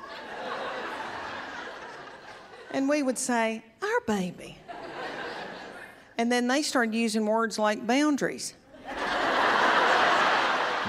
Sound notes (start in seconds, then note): 8.7 laughter